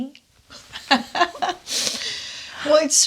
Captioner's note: laughs